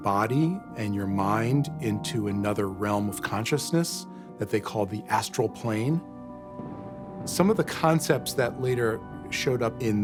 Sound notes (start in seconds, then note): 6.5 thunder rumbles